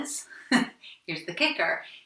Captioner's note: laughs